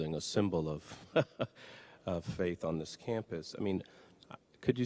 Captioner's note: laughs